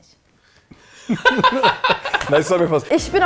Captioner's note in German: Gelächter im Hintergrund